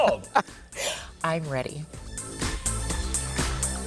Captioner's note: laughs; exciting music